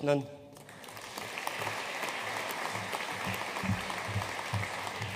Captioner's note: audience applauding